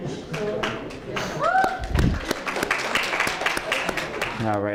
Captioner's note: applause